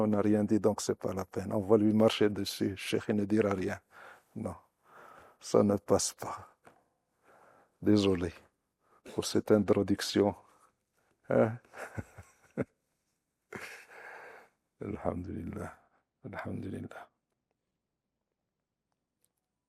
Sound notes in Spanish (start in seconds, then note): 11.6 risas